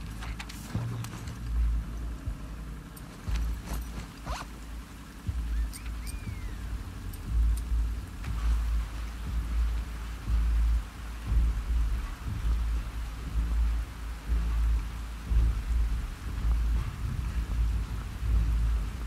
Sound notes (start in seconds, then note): 5.4 response Whistles!